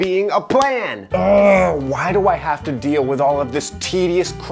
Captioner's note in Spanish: quejidos